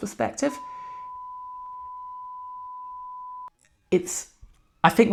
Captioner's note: beeping